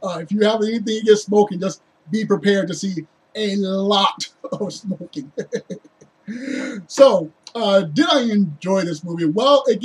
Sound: laughs

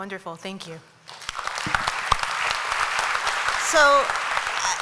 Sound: applause

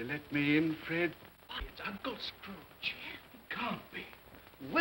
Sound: guests murmur

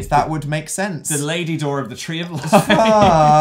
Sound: laughs

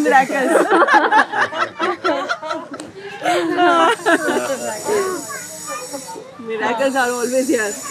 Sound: laughter

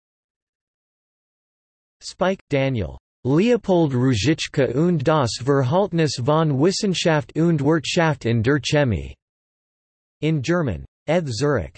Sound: in German

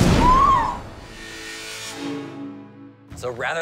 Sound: explosion; screams

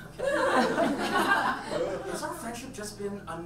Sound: audience laughs

